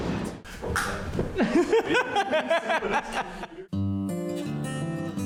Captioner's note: laughing